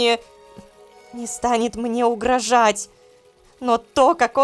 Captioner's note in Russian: шепотом